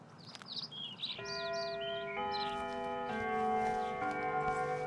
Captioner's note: doorbell ringing